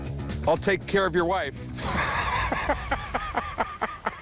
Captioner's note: laughs